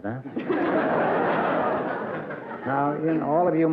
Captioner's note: laughter